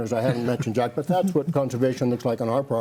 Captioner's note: panelist chuckles